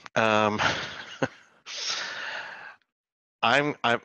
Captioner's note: laughs